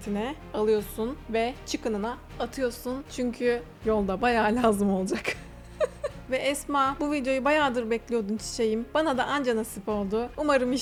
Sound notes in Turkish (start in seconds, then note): 5.1 kahkaha